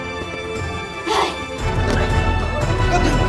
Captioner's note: Claudia groans